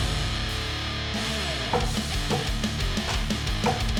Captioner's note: chopping sounds; rock music